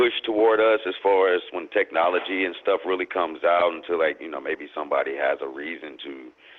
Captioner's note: echoing